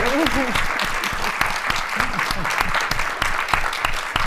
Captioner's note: applause